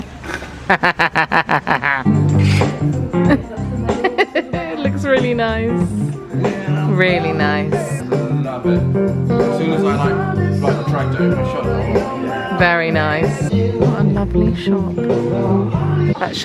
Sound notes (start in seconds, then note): 0.6 both laughing; 3.6 laughing